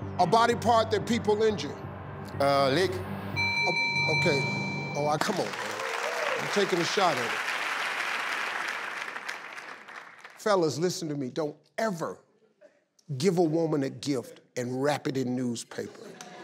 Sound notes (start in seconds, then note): 3.4 bell dings; 5.1 audience applauds